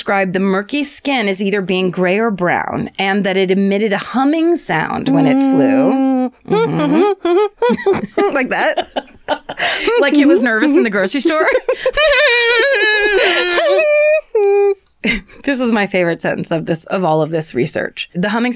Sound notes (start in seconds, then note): 5.0 steady humming; 7.6 cheerful humming; 11.7 nervous humming